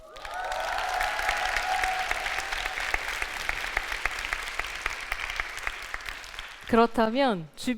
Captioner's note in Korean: 박수와 환호